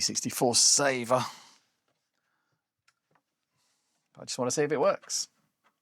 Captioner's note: sighs